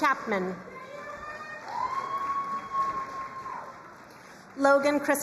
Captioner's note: crowd cheering and applauding